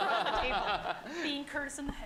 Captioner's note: laughter